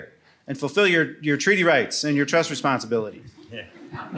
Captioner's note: laughter